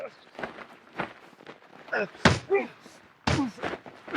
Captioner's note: Andrew and Sam grunting; fist slams